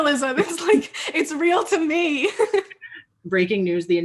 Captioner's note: laughing